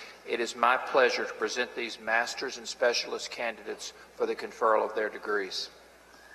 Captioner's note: none